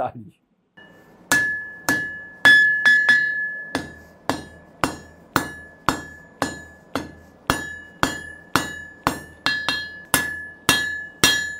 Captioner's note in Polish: dźwięk młotka uderzającego o stal